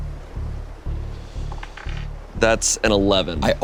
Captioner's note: dice taps